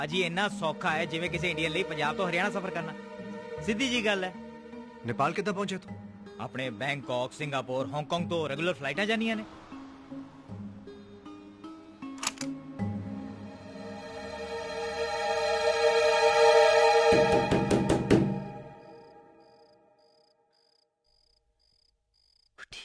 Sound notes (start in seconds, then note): 17.2 knock On Door